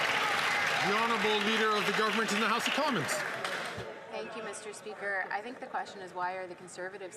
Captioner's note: some Applause